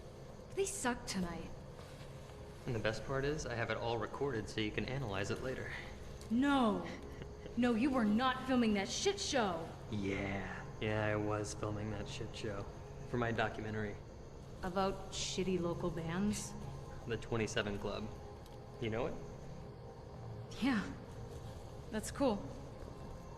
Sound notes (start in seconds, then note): 6.8 ridacchiando